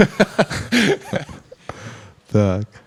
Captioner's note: laughter